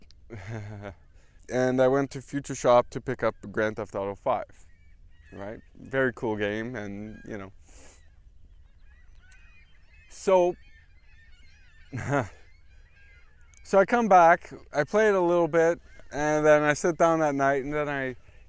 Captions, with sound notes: (Laugh) And I went to Futureshop to pick up Grand theft auto 5. Right. Very cool game. So ... (Laugh) So I come back, I play it a little bit. And then I sit down at night and then I ...